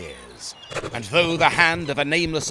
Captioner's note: scribble scribble